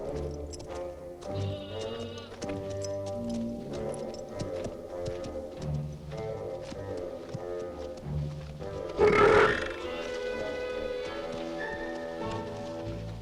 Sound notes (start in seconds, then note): 9.0 Torente belches